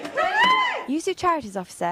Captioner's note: cheering